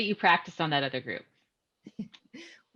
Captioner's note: chuckles